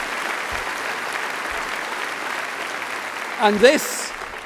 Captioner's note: applause